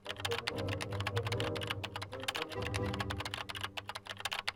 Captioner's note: keys continue tapping